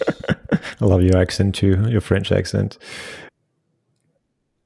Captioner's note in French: Rires